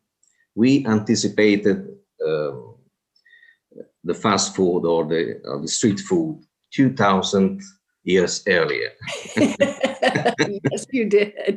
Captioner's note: laugh